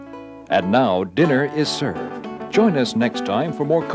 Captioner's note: voiceover